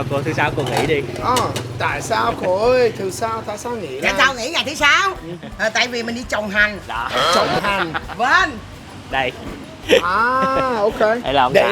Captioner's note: jokingly